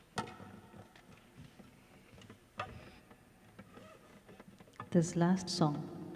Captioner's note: silence